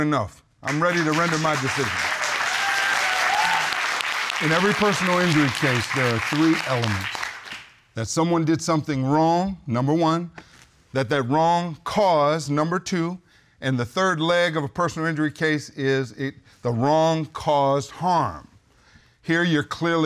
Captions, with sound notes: I think I've heard enough. I'm ready to render my decision. [audience cheering] In every personal injury case, there are three elements. That someone did something wrong. Number one. That that wrong cause. Number two. And the third leg of a personal injury case, is the wrong cause harm.